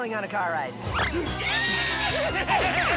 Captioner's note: happy squeal